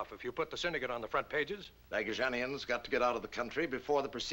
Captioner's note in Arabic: يتمتم